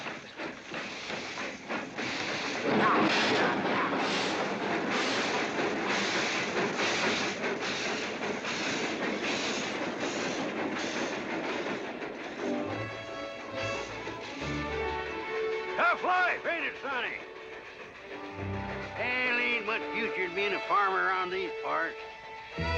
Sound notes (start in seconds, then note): 0.3 train chugging past; 4.2 train chugging past